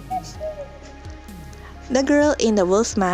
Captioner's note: cuckoo